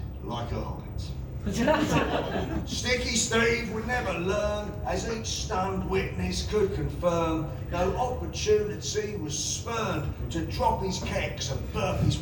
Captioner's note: laughter